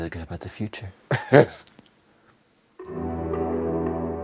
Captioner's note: laugh